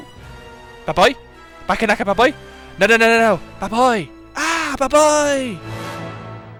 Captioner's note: Minion gibberish courtesy of vocally gifted narrator